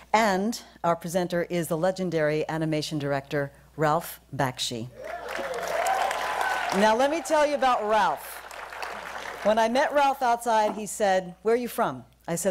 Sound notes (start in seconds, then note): 5.0 applause